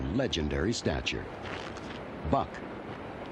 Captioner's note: clothes squeaking